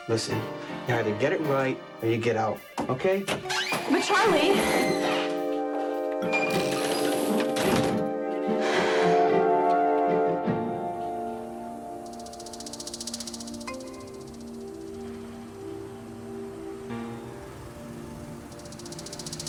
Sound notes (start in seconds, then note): 7.3 door thuds; 8.4 Margaret sighs; 15.4 soft music